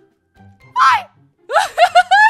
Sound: scream

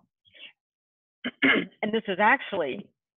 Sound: cough

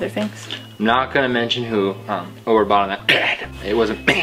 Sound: coughing "Dad"

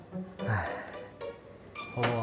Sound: sigh

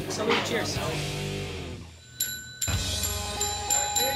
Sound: bell ringing

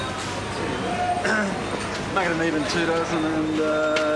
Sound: clears throat

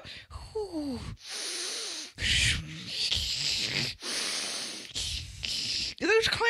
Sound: sighs and takes two ragged deep breaths

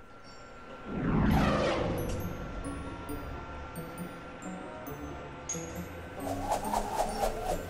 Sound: machinery buzzing

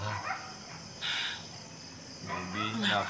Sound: sighs

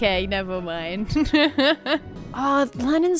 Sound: laughs

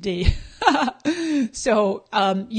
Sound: laughing

